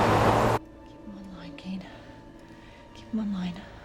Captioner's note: whispering